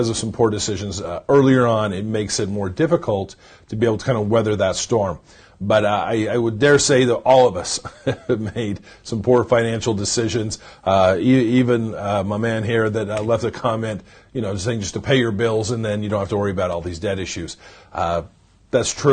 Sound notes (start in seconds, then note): 7.7 chuckles